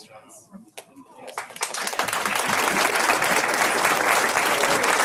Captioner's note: audience applauds